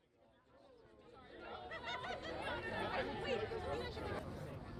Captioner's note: crowd chatters